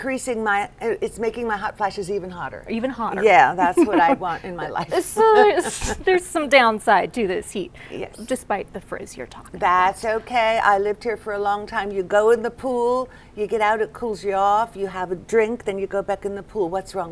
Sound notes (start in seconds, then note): 3.6 laughter